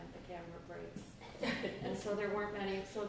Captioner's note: laughter